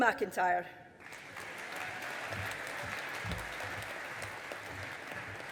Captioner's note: audience applauding